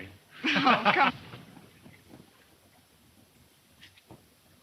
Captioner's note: Bob laughing